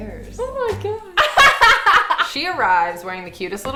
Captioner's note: laughing